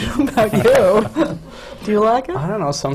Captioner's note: laughs